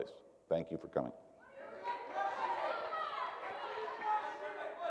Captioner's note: crowd shouting